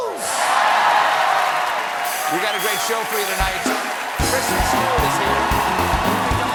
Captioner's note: cheers and applause